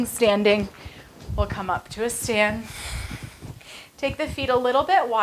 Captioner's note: breaths heavily